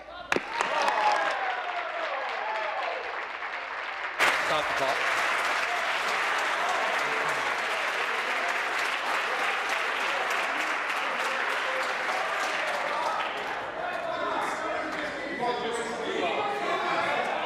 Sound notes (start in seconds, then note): 5.1 applause